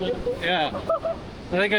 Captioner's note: laughter